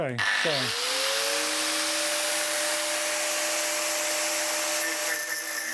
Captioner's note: angle grinder whirring